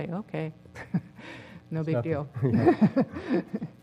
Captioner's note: laugh